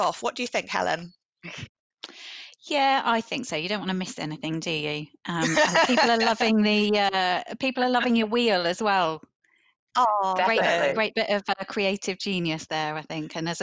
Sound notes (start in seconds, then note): 5.4 chuckles